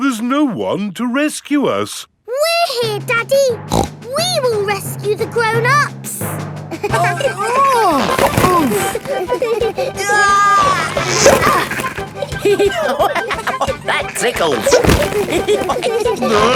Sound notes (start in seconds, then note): 3.6 snorts; 7.0 giggling; 7.0 grunting; 9.9 giggling; 12.6 laughing; 15.4 all giggling